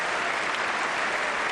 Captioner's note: applause